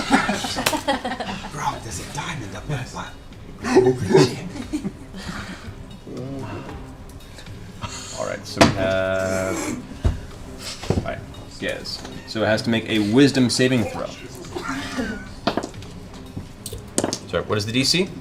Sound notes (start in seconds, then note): 1.9 whispers